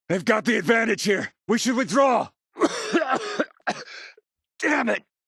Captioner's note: coughing